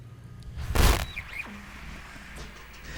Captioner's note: static